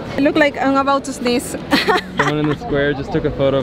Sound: laughs

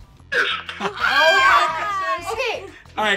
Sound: shouting

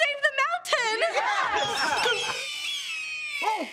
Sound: cheering, squawking

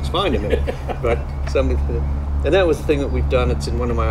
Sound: laughing

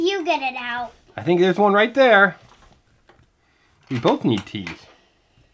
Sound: voiceover

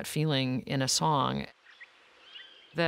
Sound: birds chirping

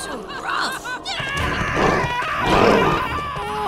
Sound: screaming

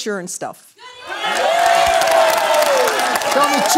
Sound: applause

